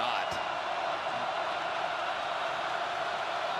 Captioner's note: crowd cheering